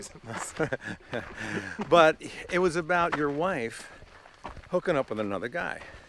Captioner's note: laughs